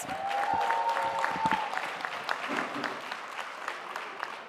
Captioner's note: audience applauding